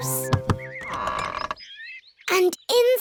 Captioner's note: door creaks